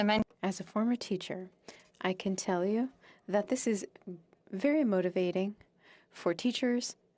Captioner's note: speaking French